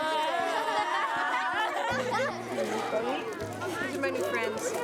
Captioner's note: students cheering